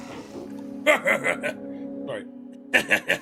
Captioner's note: laughs